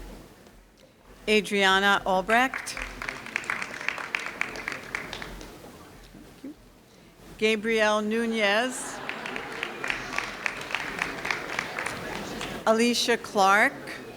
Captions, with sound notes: Adriana Albrect Gabriel Nunez (audience laughing) Alica Clark